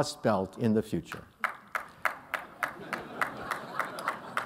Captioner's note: laughter